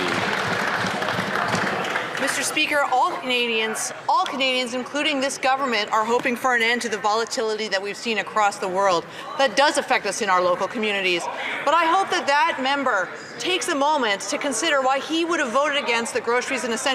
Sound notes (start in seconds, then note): 0.0 some Applause